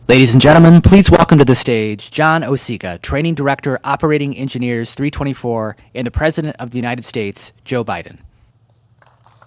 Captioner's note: applause